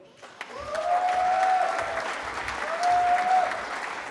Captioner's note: cheering